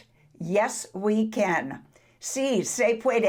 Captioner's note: speaks foreign language